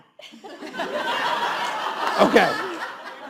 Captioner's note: all laughs